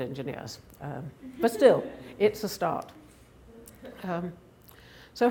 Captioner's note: laughing